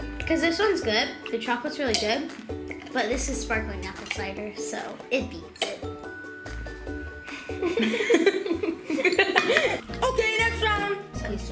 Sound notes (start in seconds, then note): 7.5 giggles